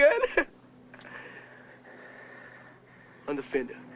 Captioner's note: sigh